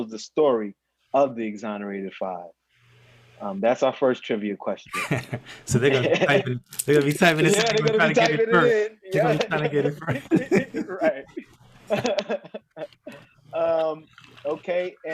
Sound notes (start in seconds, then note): 4.9 laughing; 11.8 both laughing